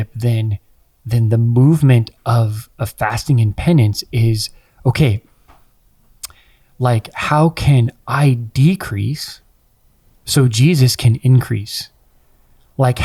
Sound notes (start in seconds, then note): none